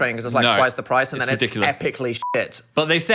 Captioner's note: beep